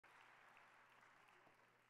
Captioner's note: audience applauding